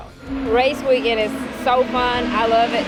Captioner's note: engine revving